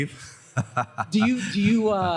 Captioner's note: laughs